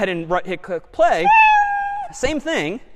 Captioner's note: meow